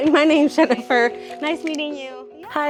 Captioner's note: chuckling